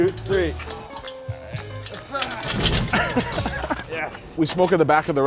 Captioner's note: laughs